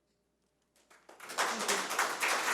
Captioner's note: audience applauds